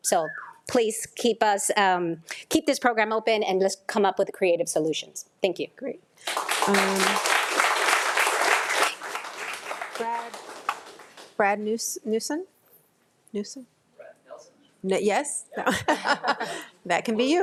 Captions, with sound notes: - So please keep us-keep this program open and let's come up with a creative solution. - Thank you. (audience applauding) - Brad Nelson. - Yes, that can be you.